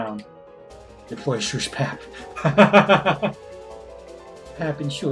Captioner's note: laughs